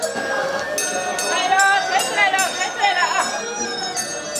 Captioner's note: car coming through